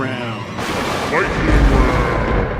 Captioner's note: lightning crackling